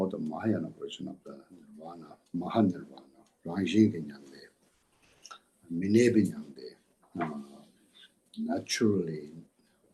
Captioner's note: tibetan